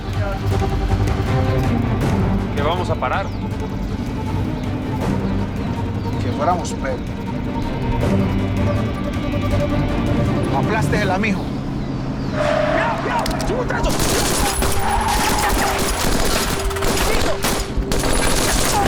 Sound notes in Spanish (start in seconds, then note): 12.2 Chirrido de llantas; 12.3 Gritos; 13.7 Disparos